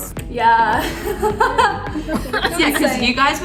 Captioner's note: laughing